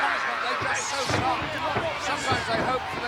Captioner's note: body thudding